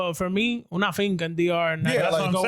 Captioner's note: speaking In Foreign Language